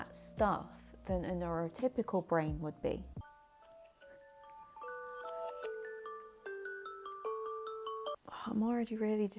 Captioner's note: phone alarm going off idk why